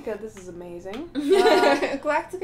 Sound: laughter

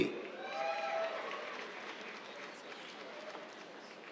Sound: cheers, applause

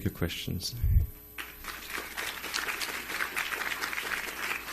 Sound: applause

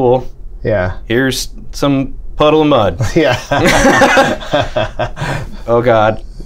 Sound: laughter

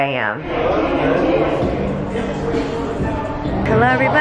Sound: crowd chattering

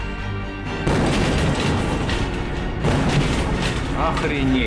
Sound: explosion; two explosions

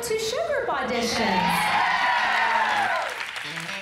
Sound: cheers

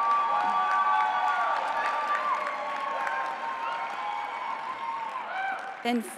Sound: applause

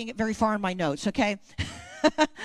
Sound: laughs

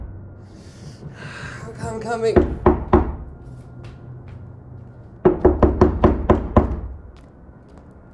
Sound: knock

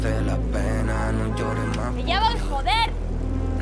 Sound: horn

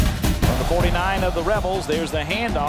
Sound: voiceover

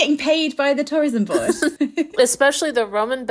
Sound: laughing

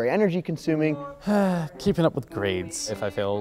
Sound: sigh

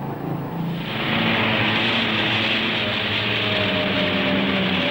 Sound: engines humming

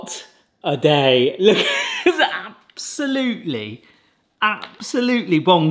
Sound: laughs

